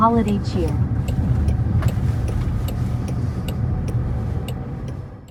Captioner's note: indicator clicking